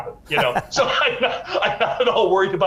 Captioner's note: laughing